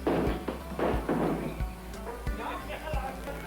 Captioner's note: hammer thudding